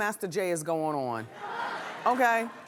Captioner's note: laughing